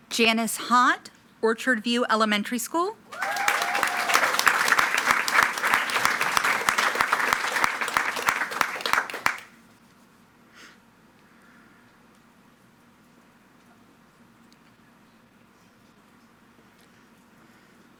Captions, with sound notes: Janice Hott, Orchard View Elementary School. (attendees cheering and clapping)